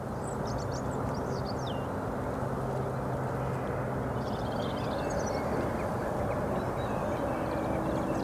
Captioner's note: mainly birdsong